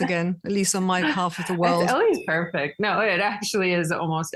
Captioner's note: laughing